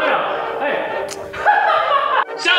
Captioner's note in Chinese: 大爆笑